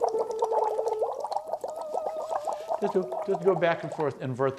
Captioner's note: water bubbling, vocalizing